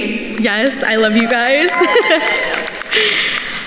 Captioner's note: attendees applauding; laughs